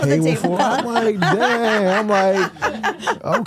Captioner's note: laughs